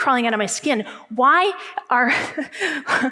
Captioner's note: laughs